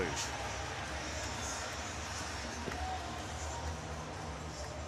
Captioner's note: cheering